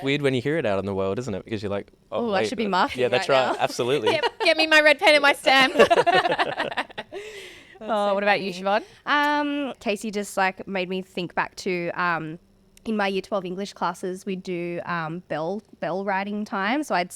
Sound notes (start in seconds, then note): 5.6 all laugh